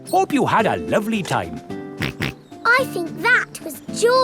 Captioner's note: snorts